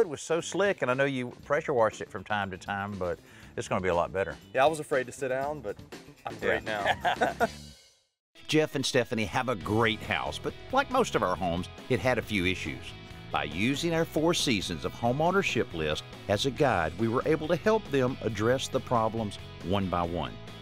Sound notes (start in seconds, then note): 6.3 laughs